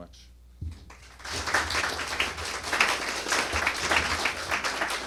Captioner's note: applause